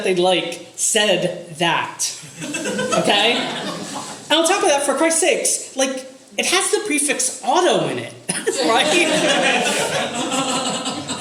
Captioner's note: audience laughter